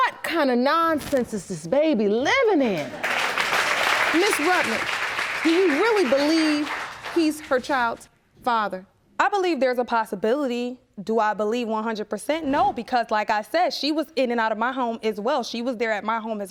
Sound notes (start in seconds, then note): 2.7 applause